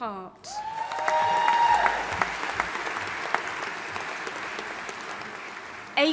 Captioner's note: audience applauding and cheering